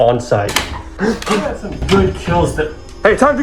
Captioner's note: gasp